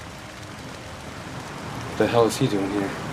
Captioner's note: none